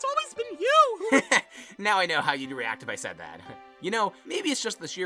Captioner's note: nickel laughs